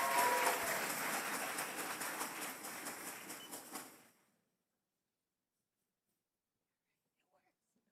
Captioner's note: cheers and applause